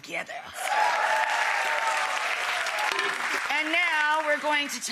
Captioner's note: audience cheers